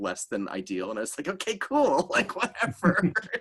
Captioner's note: laughing